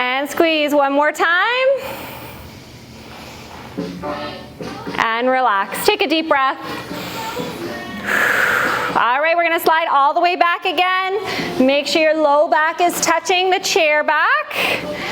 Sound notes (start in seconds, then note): 8.0 breath